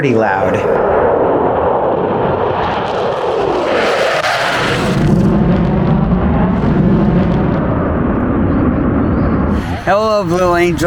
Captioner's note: jets flying